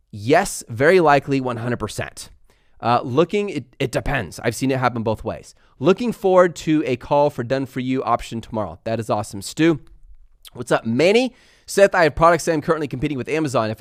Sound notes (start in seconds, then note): none